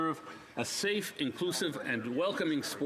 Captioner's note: speaking French